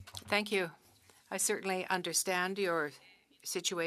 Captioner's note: speaking French